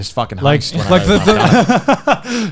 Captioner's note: laughing